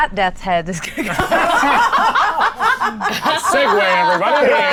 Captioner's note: group laughs